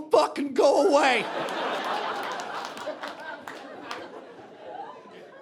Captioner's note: audience laughing